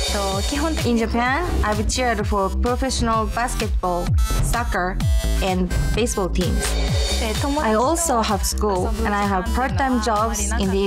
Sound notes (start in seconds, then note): 7.2 speaking foreign language